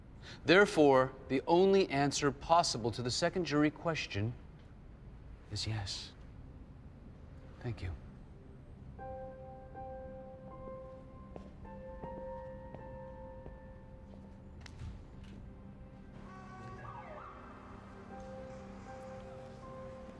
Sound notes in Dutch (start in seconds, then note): 6.1 delicate music; 16.0 siren wails; 16.1 car honks